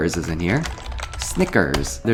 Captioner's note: keys tap